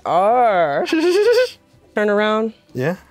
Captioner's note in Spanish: ríe